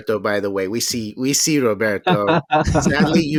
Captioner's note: laughs